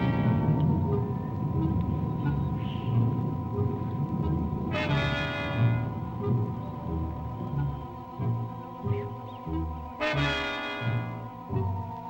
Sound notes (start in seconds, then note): 1.0 birds chirping; 1.0 mysterious music